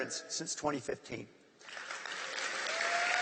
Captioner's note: applause